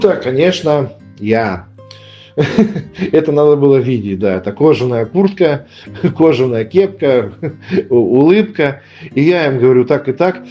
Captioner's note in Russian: смех